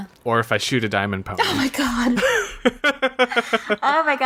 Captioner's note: laughs